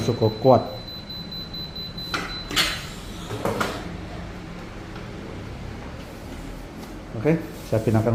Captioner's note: press machine noise